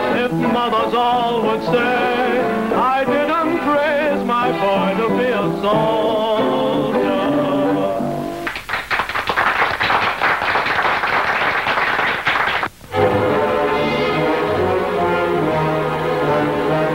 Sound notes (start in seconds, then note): 8.4 patrons clapping; 13.1 dramatic suspenseful music